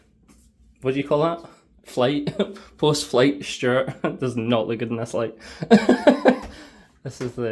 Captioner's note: laughs